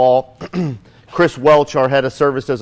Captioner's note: clears throat